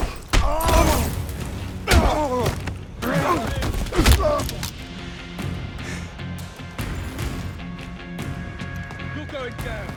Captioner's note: groaning